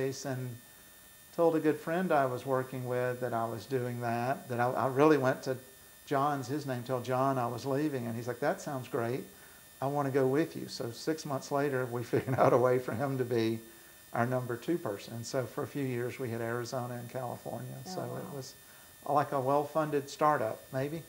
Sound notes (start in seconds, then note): 12.1 laughs